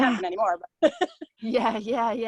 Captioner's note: laughs